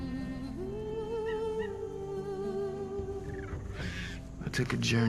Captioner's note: monkey chattering